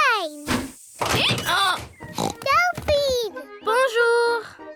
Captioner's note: oinks; brays